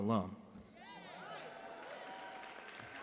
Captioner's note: cheers and applause